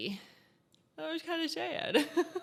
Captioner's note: chuckles